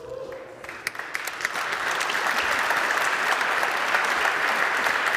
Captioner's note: applause